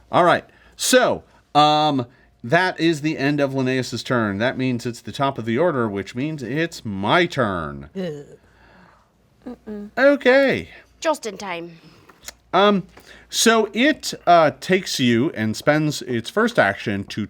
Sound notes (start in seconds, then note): 8.3 groans; 9.5 whimpers